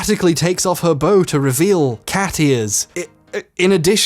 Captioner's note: stammers